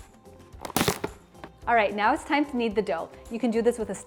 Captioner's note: wrap tearing